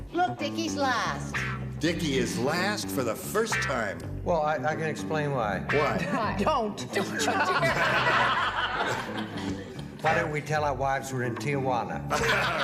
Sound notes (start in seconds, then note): 7.0 laughter; 12.1 laughs